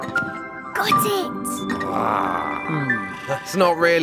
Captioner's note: Big Lizard trilling